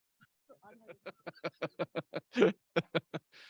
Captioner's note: laughs